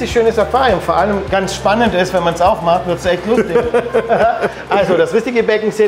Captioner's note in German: lacht dreckig hinter Kamera